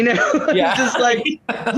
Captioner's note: laughter